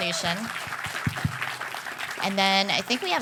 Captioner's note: cheers and applause